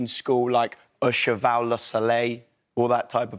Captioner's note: speaks french